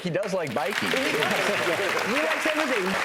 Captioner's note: applause